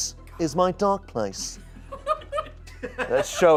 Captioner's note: audience laughing